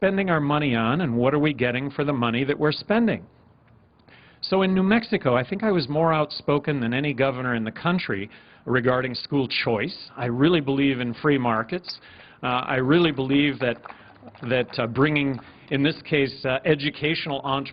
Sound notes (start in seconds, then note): 8.0 applause